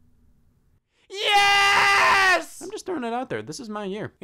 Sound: screaming

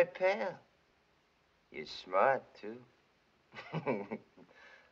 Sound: chuckling

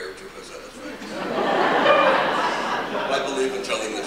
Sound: laughter

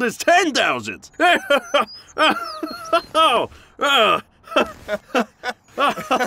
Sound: general laughing; both laughing

